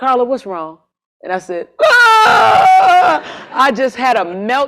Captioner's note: scream